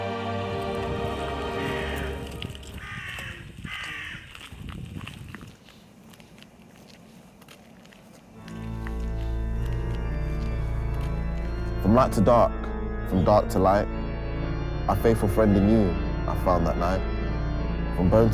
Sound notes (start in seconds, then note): 0.6 crows caw; 8.9 organ music